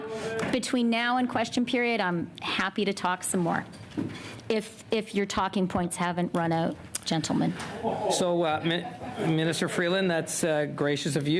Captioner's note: laughter